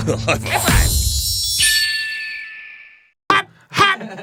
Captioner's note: distant cries of a red-tailed hawk